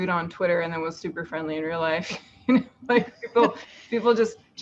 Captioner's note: laughs